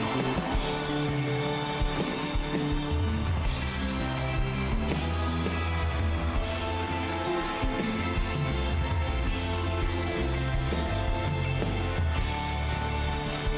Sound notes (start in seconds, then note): 2.8 cheers and Applause